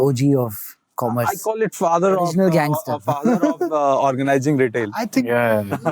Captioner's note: chuckles